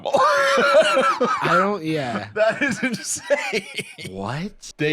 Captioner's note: laughs; laughing